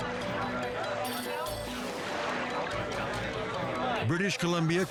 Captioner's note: people chattering indistinctly; suspenseful music